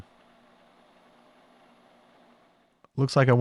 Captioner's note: lathe whirring